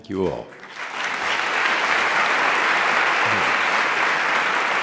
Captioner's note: applause